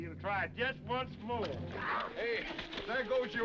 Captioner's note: horse hooves clopping